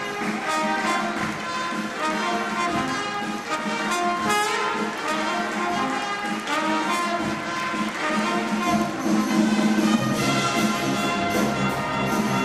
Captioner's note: applause